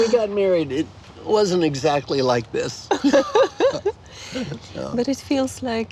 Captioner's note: laughing